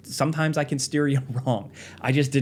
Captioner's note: chuckling